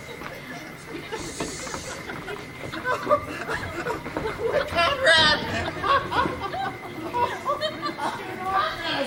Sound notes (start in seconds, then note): 2.8 Borachio laughing